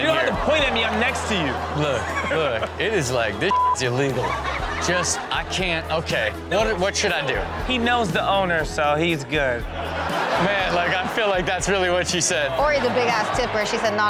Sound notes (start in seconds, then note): 3.8 audience laughs; 3.8 Steelo laughs; 9.6 audience laughs